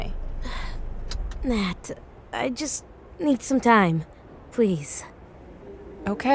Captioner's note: sighing